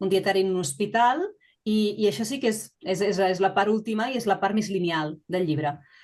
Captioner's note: continues speaking in Catalan